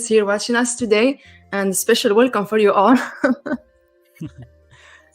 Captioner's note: laughs